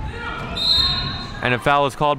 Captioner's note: referee blows whistle